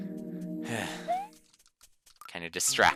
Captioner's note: sigh